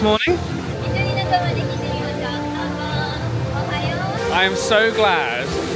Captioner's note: cast Member speaks in Japanese